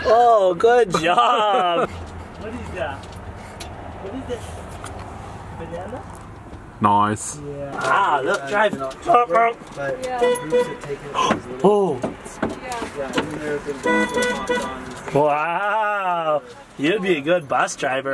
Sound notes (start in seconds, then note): 2.9 baby talk; 10.1 horn honks